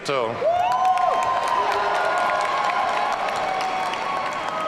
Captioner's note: audience cheering